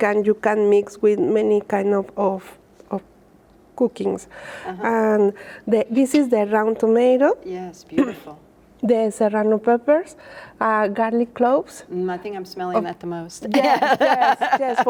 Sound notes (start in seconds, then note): 13.5 laughs